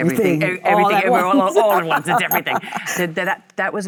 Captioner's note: Michelle laughs